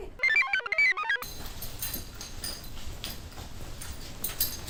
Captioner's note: computer chirps; keys jangle